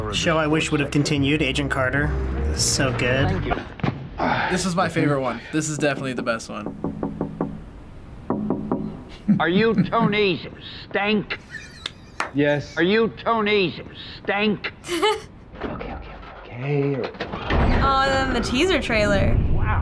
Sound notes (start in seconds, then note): 6.5 knocking; 11.4 wheezing laughter; 11.4 giggles